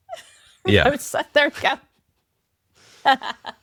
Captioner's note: laughs